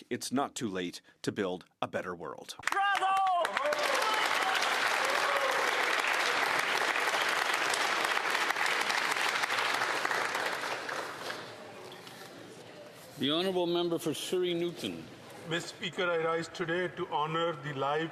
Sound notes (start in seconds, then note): 11.9 some Applause